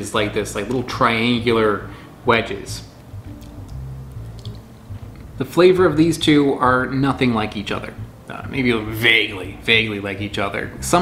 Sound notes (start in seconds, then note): 4.1 chewing